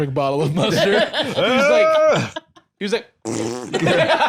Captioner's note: blows raspberry; laugh